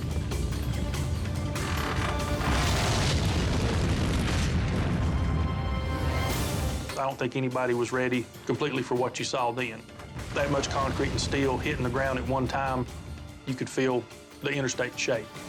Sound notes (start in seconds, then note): 0.2 edgy dramatic music; 1.7 fire exploding; 5.6 edgy dramatic music; 10.2 fire exploding